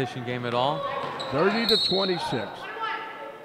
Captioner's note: whistle blows